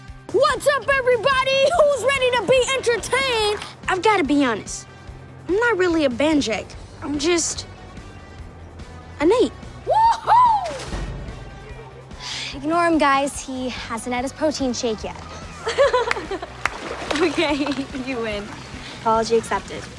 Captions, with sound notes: What's up, everybody? Who's ready to be entertained? I've gotta be honest... I'm not really a Banjeck, I'm just... an eight. Woohoo! Ignore him, guys, he hasn't had his protein shake yet. [laughing] OK, you win, apology accepted.